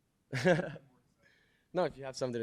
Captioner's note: chuckles